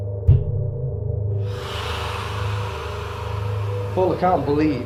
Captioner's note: screaming